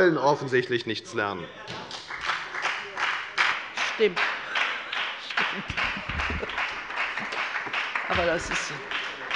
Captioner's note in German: Beifall bei der FDP